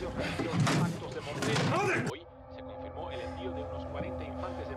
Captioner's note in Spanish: ruido al buscar algo